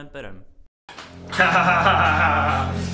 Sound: laughs

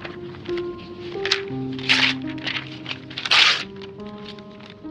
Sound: paper tearing

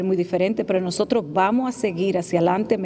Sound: speaking spanish

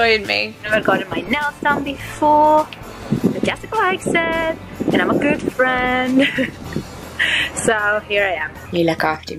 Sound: laughs

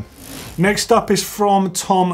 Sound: gear whirs

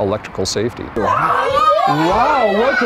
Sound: children cheering

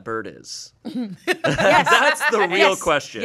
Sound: everyone laughs

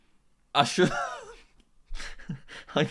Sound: laughs

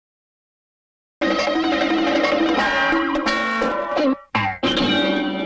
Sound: cartoon sounds

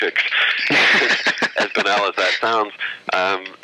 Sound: laughter

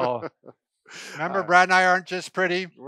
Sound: laughs

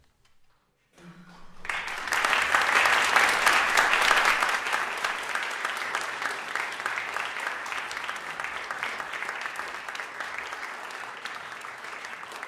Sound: applause

